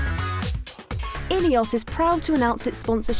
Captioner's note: voiceover